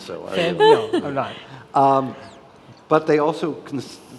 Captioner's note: laughing